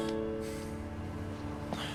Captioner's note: sighs